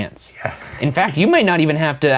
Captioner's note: laughing